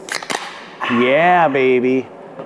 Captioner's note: cans opening